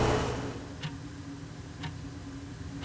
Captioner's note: sound of clock ticking